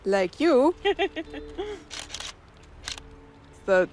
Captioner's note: laughs